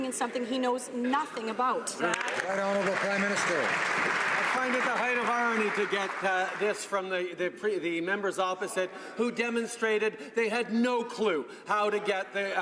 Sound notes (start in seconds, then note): 4.6 some Applause